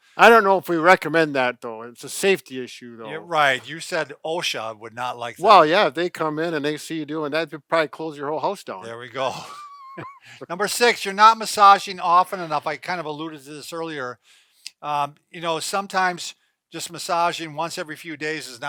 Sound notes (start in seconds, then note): 9.1 chuckling